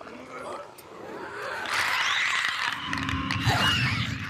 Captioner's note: zombie squeaking